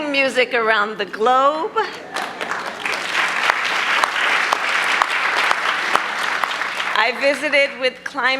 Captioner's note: applause